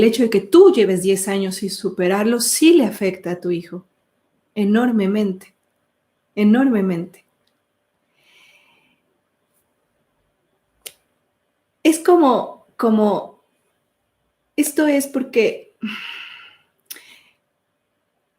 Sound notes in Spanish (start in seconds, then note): 15.8 sigh